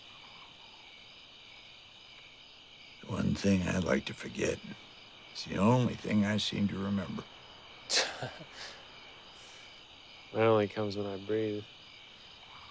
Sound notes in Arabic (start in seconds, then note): 7.8 يضحك